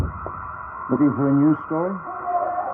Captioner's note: men shout